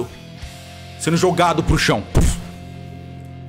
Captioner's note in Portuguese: pluf